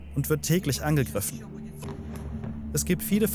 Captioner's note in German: Dumpfes Geräusch